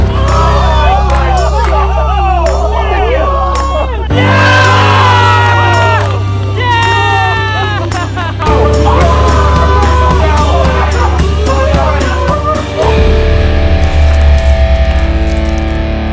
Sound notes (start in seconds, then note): 8.8 screaming